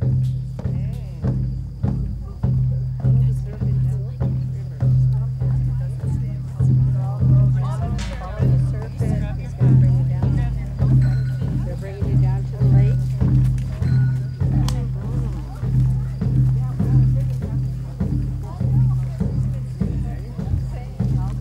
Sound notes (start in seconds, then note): 0.2 drumming; 6.4 quietly in crowd; 15.3 drumming